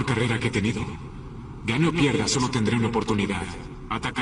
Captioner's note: in Latin Spanish